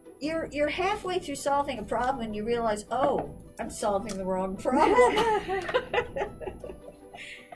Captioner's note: laughs